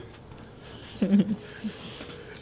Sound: giggles

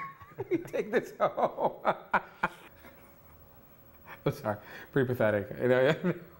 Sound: laughs; laughs

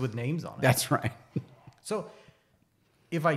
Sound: laughs

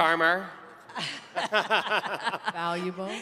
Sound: laughing

